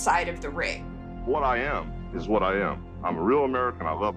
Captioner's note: soundbite of archived recording